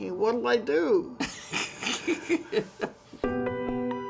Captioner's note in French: rires